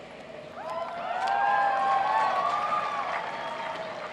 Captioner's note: applauding